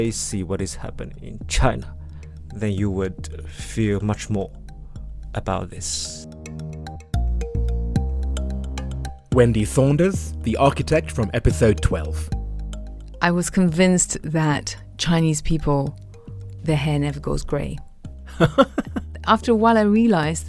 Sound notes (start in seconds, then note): 7.0 voiceover